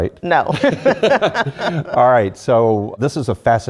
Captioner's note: laugh